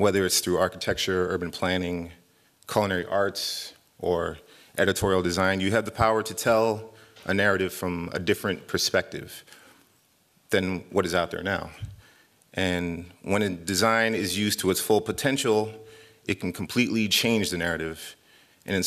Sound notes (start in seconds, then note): none